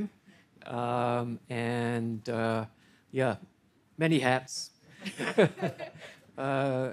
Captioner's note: everyone laughing